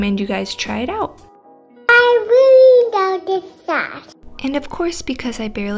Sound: child speaks

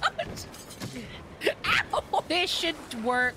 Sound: laughing

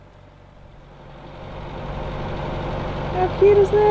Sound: boat engine running smoothly

